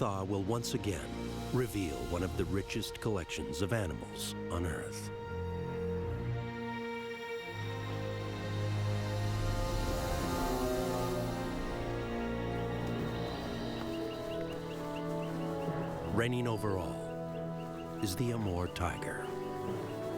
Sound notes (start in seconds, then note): 12.7 animal roaring